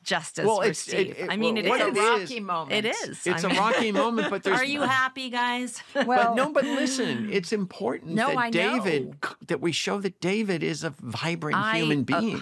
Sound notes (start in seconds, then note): 3.3 laughter